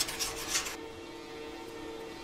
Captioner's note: distant whirring